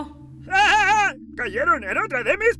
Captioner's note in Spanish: Ríe